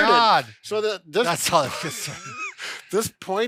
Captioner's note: laughs